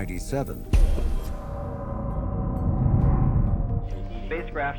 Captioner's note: pop, engine roaring